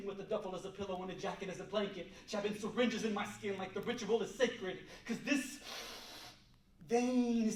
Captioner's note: inhales